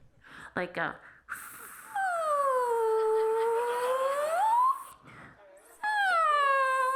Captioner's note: imitates balloon slowly deflating and squeaking